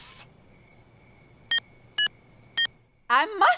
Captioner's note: phone beeping